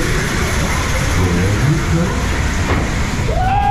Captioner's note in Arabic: الناس يصرخون